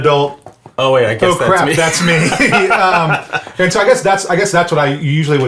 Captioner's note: laughs